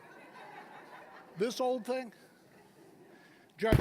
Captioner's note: audience laughing